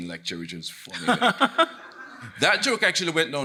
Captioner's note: chuckling